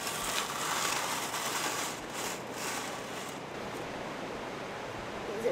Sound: dirt/rocks scraping

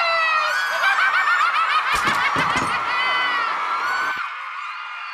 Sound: maniacal laughter; audience applauding and cheering

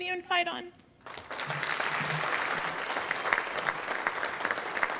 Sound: audience applauding

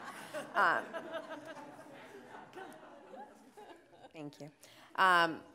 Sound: audience laughing

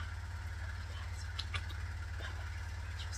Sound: kisses

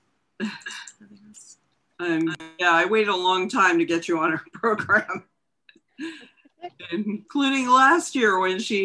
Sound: chuckles

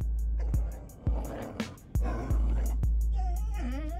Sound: growling

